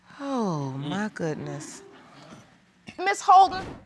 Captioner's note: sighs